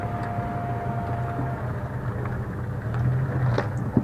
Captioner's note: engine, road noise